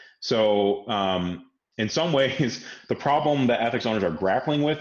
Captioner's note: laughs